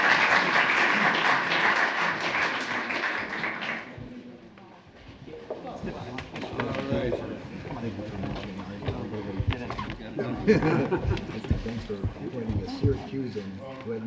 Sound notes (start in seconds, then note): 0.0 applause; 10.2 laughs